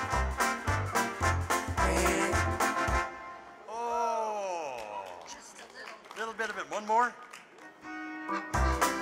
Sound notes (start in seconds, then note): 4.4 audience applauding; 7.5 lively polka music